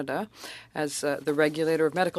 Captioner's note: speaking French